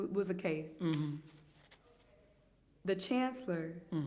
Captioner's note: hums in agreement